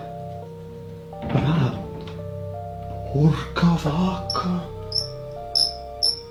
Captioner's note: foreign Language